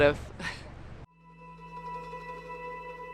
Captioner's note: chuckles